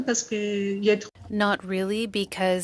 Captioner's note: speaking French